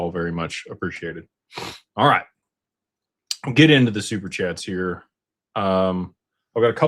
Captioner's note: snorts